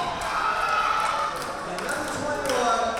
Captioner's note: crowd cheering